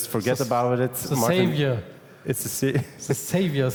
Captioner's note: chuckles